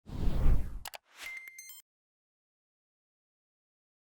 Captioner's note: logo whooshing